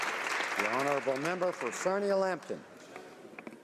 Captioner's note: applause